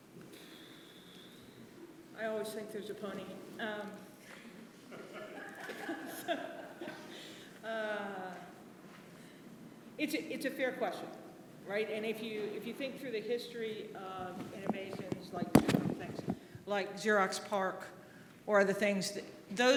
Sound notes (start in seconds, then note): 4.9 audience laughing